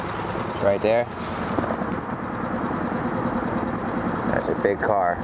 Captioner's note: motor droning